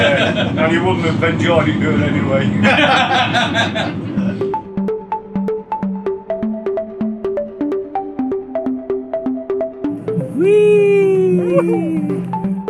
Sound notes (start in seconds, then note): 2.6 laughing; 5.8 upbeat music